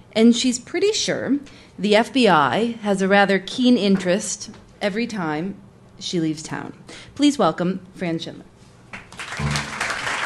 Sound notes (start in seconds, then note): 9.0 applause